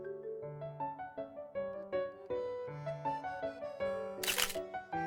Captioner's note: click